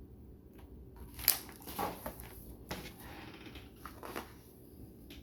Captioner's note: paper rustles